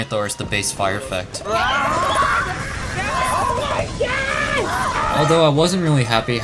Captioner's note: crew laughing